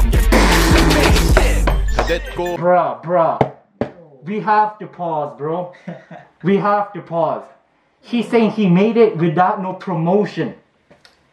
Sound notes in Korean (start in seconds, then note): 5.7 하핫